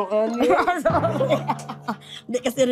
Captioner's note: chuckles